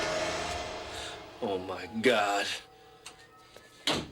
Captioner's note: gasps